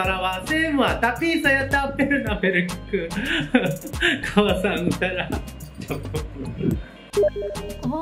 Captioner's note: japanese laugh